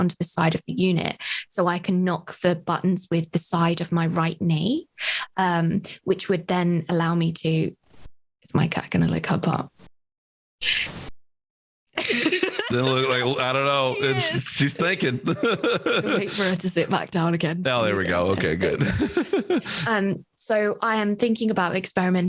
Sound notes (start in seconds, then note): 12.0 laughs; 18.2 laughs